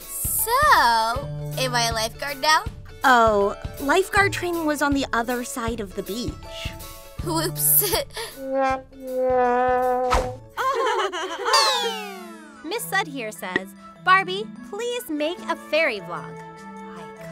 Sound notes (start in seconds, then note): 7.8 laughs; 9.2 sad trombone; 10.2 air whooshes; 10.6 laughing